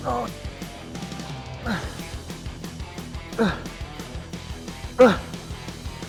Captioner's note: upbeat rock music continues; Ethan grunting